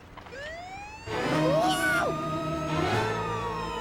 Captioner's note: siren wailing